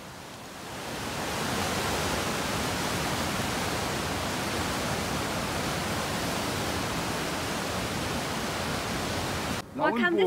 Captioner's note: water sound